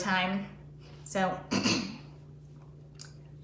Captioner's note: coughs